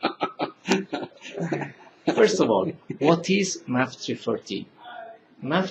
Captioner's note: laughing